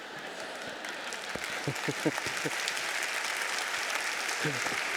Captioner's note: audience applauding